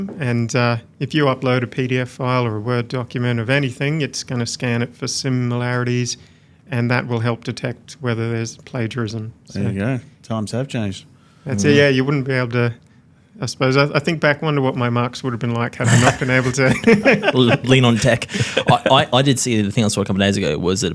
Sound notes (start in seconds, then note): 15.8 laughs; 18.3 everybody laughing